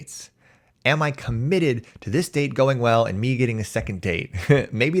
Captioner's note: chuckles